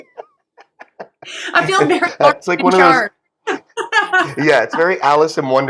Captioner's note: laugh